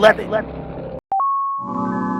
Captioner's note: p-ding!